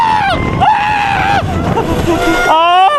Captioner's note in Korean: 와아아아악